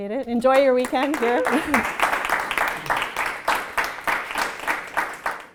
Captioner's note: applause